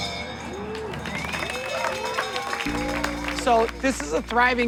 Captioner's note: cheers and applause